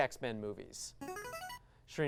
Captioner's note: device sound